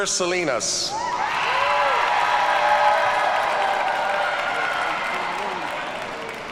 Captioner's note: audience cheers and applauds